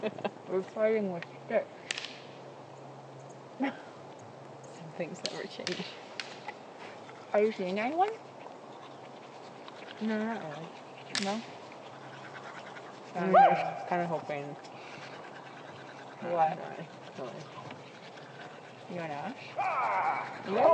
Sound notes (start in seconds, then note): 0.0 laughing; 6.1 sticks clattering